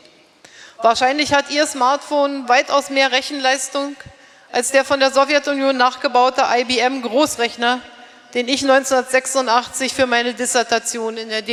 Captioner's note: speaking in German